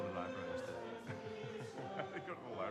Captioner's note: both laughing